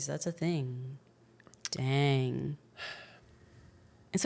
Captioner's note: sighs